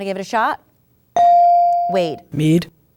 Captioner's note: ding